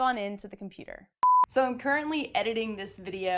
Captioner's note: beep